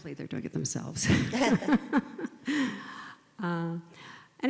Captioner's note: laugh